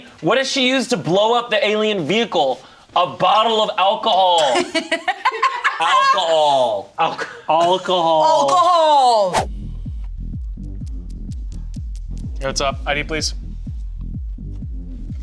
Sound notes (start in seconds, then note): 4.4 laughs; 9.4 upbeat music; 11.1 paws tapping